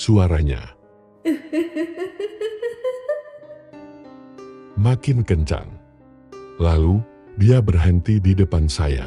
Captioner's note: laughs